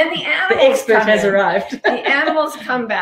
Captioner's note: laughing